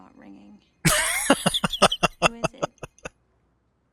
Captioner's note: laughing